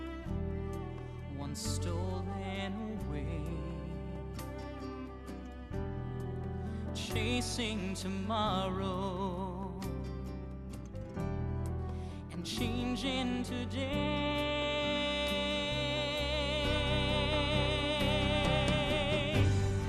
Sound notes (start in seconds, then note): none